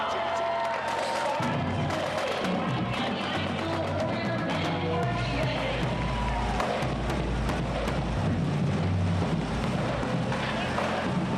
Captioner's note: cheers; band music